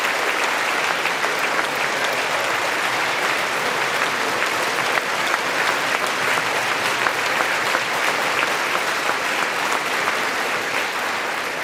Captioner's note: applause